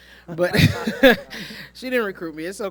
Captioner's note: laughs